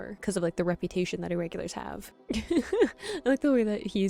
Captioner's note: laughing